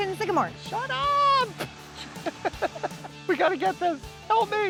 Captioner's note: laughs